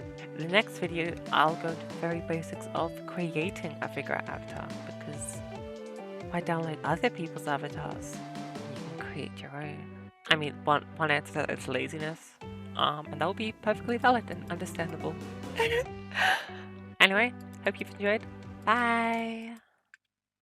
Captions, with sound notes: In the next video, I'll go to the very basics of creating a Figura avatar because ... why download other people's avatars, when you can create your own! I mean, one answer is laziness um and that will be perfectly valid and understandable. (laughs) Anyway hope you've enjoyed! Bye!